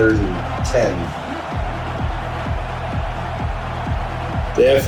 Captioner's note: crowd Noises